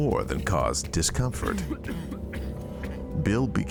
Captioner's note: coughing